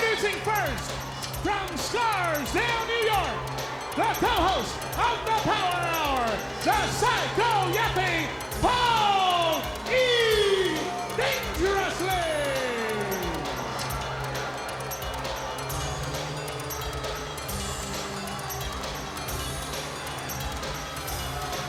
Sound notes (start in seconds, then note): 12.4 crowd chattering; 12.4 upbeat music